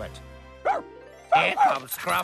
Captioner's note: barking